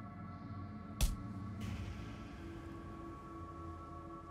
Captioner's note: smacking